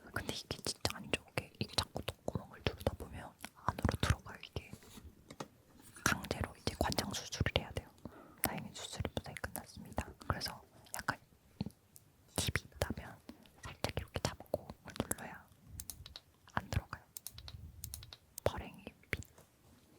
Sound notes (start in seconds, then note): 15.8 click